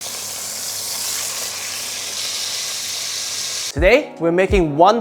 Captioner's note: sizzling sound